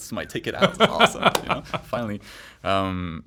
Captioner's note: laughs